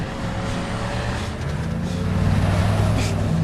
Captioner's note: chaz panting